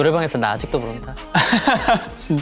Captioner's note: haha